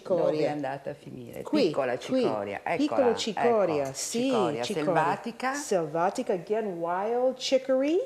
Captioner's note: speaking Italian